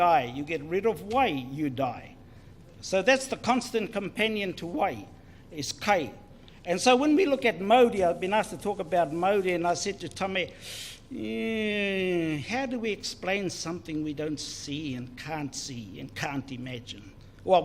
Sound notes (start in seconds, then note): none